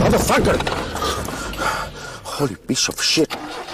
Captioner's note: gasping